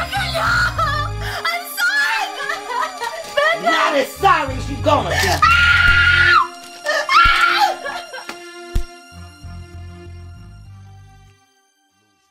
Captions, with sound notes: Becca no! I'm sorry! (Mary cries) Becca! You're not as sorry as you're gonna be! (Mary screams)